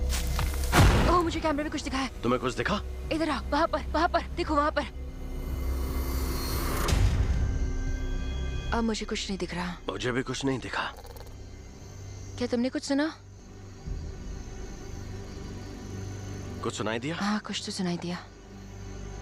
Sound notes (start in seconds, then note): 10.9 growling; 18.2 narrating